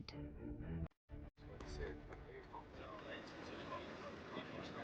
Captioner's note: speaking foreign language